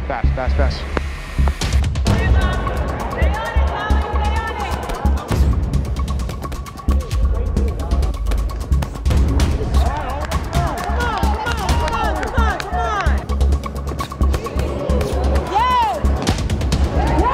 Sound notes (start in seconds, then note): 1.2 music intensifies; 2.1 audience indistinctly chattering; 9.7 audience cheering